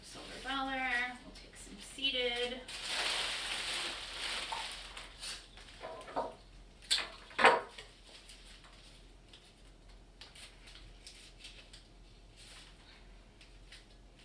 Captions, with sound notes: Silver Dollar. Take some Seeded, (Crinkling) (Knock)